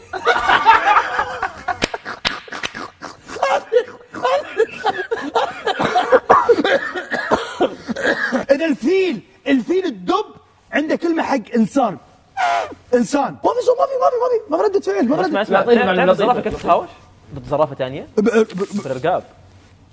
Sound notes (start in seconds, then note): 0.0 all hysterically laughing; 12.4 mimics elephant trumpet